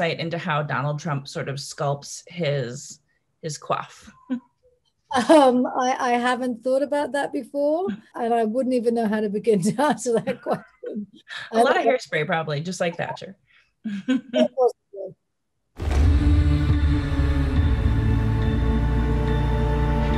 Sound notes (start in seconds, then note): 5.1 chuckles; 13.9 chuckles; 15.8 dramatic instrumental music